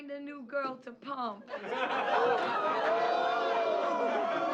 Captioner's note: whooping